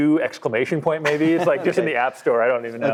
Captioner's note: laughs